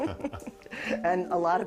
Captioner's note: both laughing